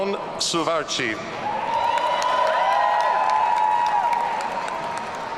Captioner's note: audience cheering